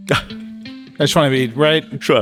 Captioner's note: Min chuckling